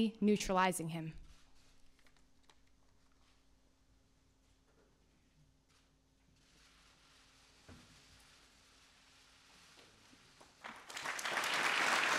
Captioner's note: applause